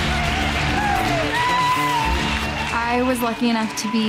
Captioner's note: crowd cheering